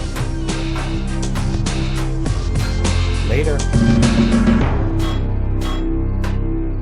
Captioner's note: pinging continues